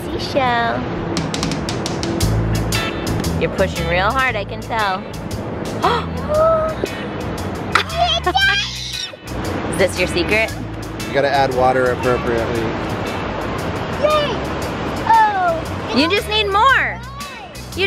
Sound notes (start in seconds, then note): 6.3 gasps; 8.6 screeches